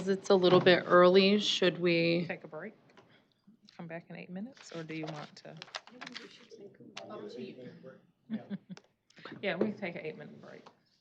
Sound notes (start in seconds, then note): 5.8 indistinct chatter; 8.2 laughing